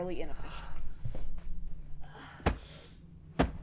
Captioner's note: Robin moans